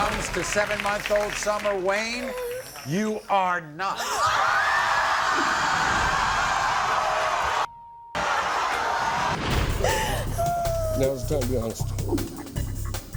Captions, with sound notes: - When it comes to seven month old Summer, Wayne you are not the father. (screaming) (crying)